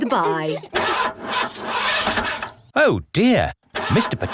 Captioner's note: engine sputtering